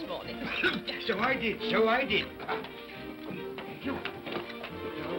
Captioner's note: Cratchit coughs